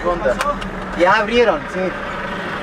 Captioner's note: passerby in Spanish